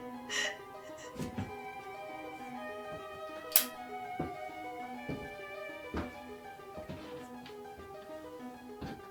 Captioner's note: Ronnie sobs; Ronnie cries